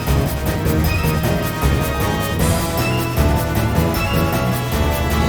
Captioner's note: cough